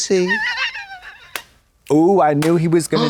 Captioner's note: Katya creaks